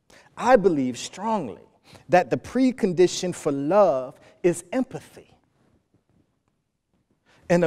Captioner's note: none